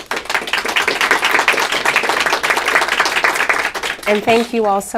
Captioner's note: applause